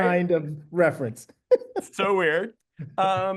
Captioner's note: laughing